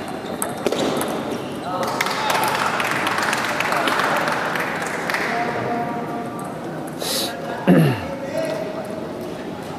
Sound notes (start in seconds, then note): 3.4 applause